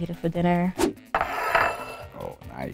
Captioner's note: plate scraping the table